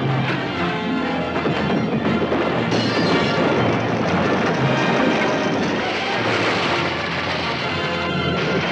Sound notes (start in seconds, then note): 2.6 glass breaks